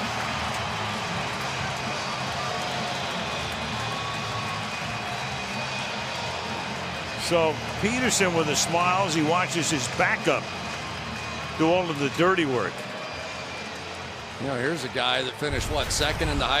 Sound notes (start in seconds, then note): 0.0 upbeat music; 3.4 cheering